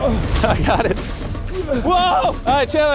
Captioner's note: grunts